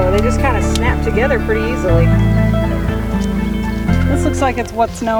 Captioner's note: click